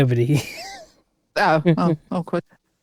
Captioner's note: laughing